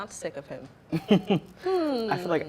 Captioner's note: man laughs